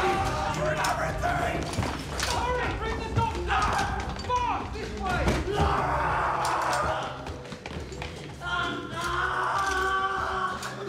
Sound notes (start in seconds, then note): 5.5 Palle screams; 8.6 Palle screams